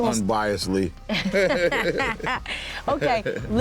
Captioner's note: laughter